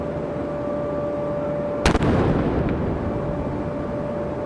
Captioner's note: cannon firing